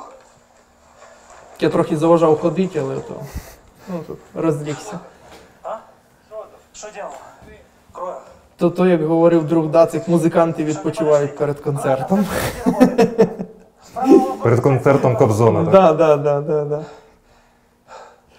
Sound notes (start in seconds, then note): 5.1 voices